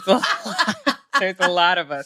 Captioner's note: laughs